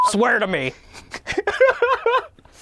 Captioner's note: laughing